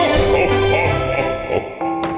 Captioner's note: laughing